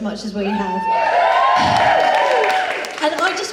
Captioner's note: audience applause and cheers